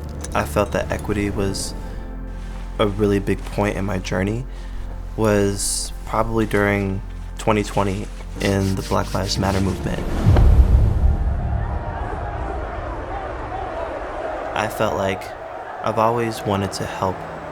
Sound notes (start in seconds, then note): 10.5 people protesting